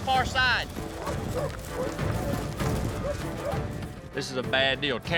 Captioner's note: hoofbeats, barking